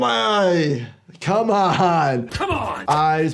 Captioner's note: laughing